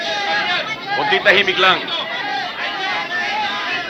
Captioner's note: speaking in foreign language; people clamoring